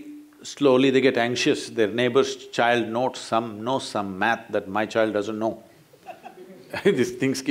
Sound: laughter

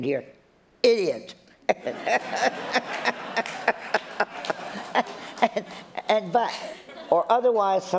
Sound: laughter

